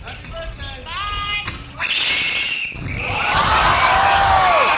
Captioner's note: screaming